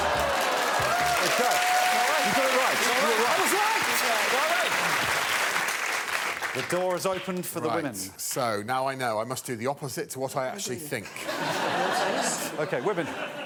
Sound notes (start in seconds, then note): 0.8 screams; 6.4 cheers and applause